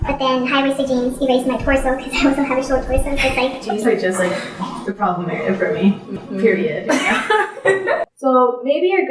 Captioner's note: both people laugh